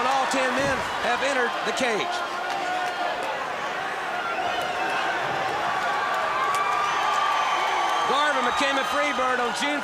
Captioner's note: crowd cheering